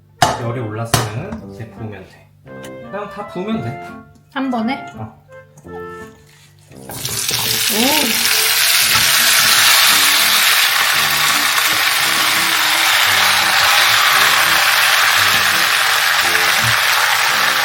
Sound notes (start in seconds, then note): 6.9 sizzle sizzle